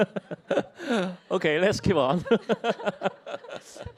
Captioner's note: laughter; both laugh